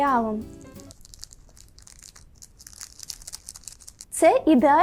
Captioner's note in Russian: шелестит